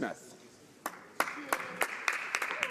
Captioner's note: some applause